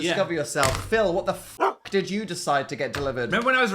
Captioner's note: bark